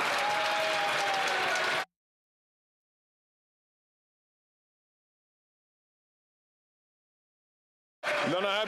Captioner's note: some Applause